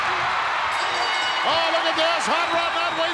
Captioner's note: crowd cheering; bell rings